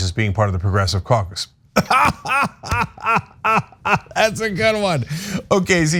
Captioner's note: laugh